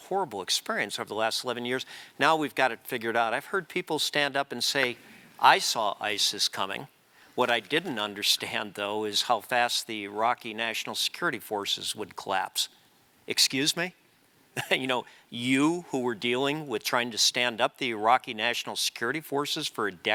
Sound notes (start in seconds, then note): 14.6 laugh